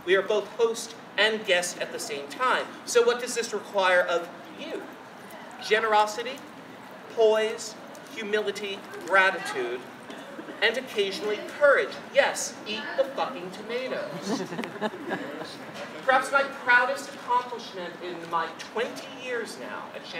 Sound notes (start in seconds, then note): 14.1 audience laughing